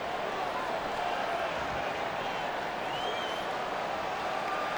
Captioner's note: crowd murmuring